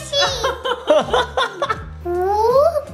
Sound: laughing

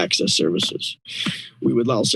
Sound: inhales

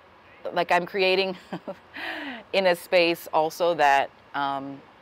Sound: laughs

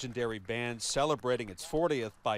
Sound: applause

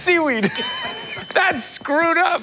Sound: laughing

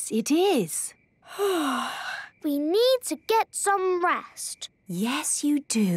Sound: yawning

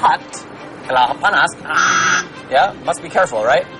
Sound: non-english speech

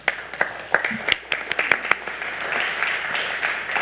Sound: all clapping

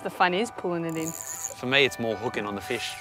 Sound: rod clicking rapidly

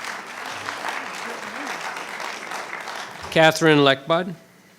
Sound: clapping

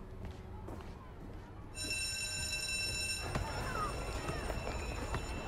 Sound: class bell ringing

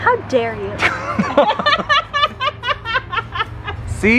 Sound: laugh

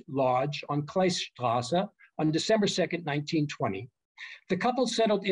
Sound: german

